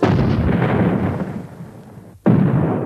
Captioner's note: booming